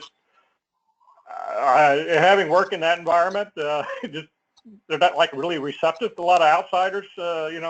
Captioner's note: laugh